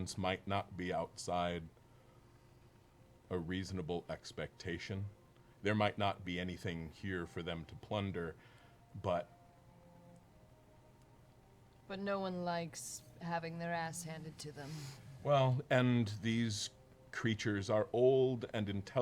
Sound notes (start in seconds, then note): none